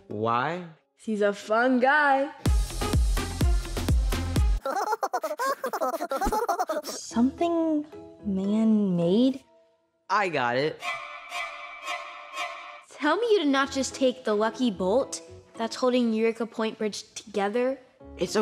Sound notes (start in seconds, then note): 2.4 pop music; 4.8 squirrels laughing; 10.8 horror music